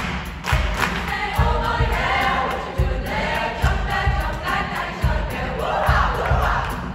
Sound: voices

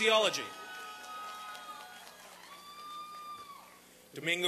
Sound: applause and cheering

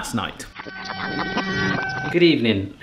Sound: rewinding sound

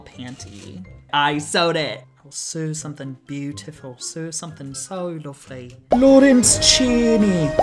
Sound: scottish accent

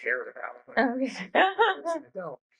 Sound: laughs

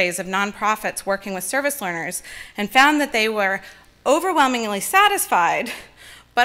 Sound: none

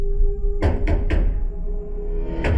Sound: knocking resumes

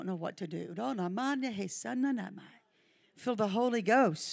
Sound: speaking in tongues

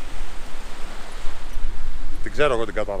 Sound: sea sounds

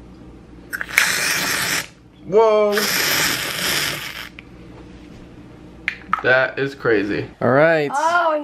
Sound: fizzing-like noise

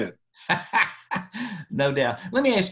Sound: laughter

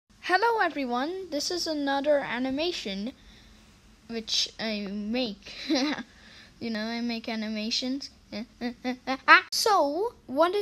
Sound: tired laughing

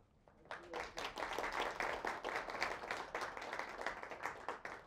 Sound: audience clapping

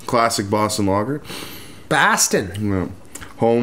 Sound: bad Boston accent

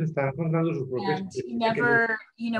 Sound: speaking Spanish

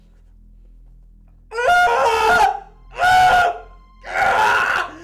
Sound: screaming

